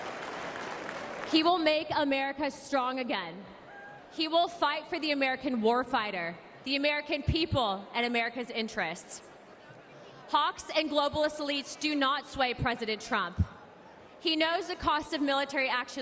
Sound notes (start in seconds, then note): 1.6 applause